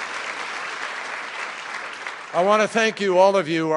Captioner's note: applause